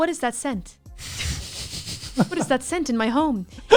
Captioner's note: sniffs